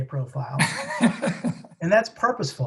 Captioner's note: laughs